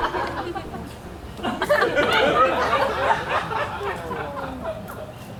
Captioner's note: audience laughs